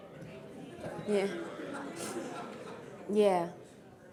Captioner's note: crowd exclaims